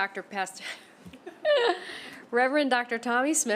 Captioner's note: laughter